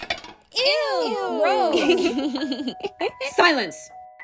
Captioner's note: collective ew's and laughter